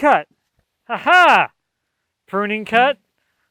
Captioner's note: laughs